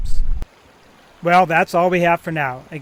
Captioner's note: water burbles